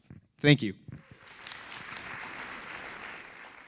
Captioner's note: applause